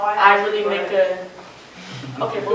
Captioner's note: laughter